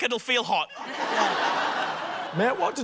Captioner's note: laughter